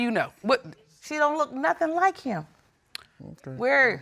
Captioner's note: clicks tongue